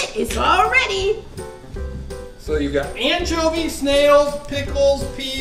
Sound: voiceover

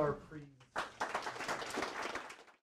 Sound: applause

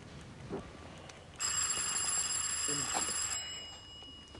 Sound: doorbell rings

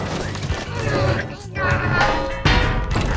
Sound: grunting

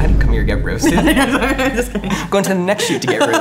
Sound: laughing

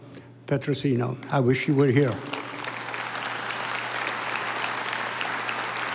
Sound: audience applauding

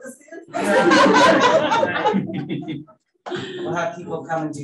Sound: panelists laughing

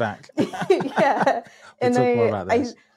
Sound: laughing

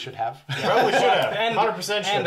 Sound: laughs

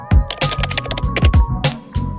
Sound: keystrokes tapping; upbeat music

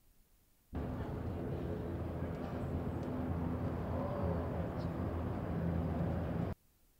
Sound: ambient street, crowd noise

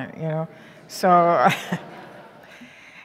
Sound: laughing

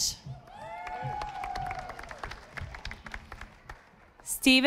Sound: audience applauding

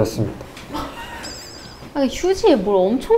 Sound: confident

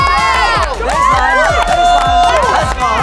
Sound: cheering

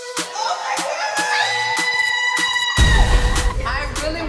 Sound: screaming

